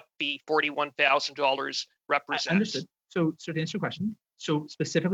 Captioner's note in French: voix de l'interprète